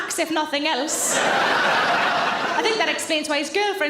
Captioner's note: audience laughing